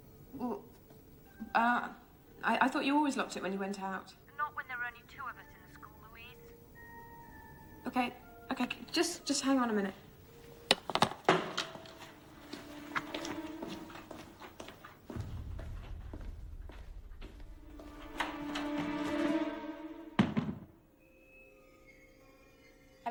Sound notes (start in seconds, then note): 10.7 phone clatters on counter; 18.3 doorknob turns; 18.3 tense music playing